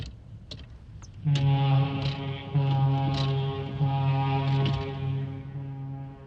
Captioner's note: foghorn blows